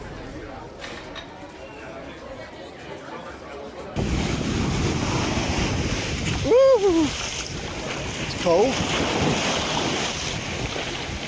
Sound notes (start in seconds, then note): 3.9 ocean waves